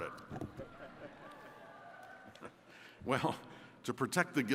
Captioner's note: attendees chuckles